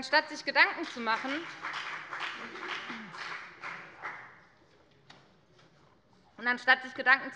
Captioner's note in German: Beifall bei der FDP